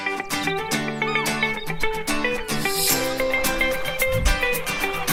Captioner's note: upbeat music; seagulls squawking